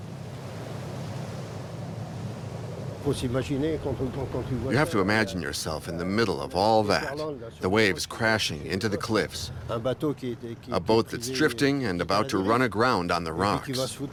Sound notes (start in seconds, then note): 3.2 speaking in foreign language